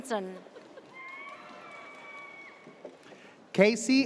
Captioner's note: audience cheers